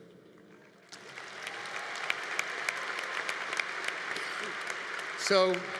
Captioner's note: congregation applauding